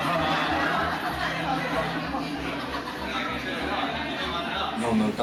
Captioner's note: indistinct chatter